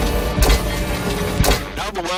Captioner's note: mechanical clinking